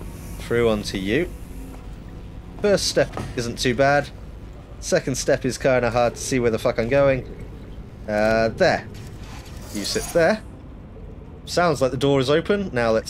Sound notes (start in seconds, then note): 6.8 drippy tap